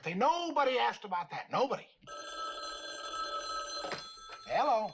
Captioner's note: phone ringing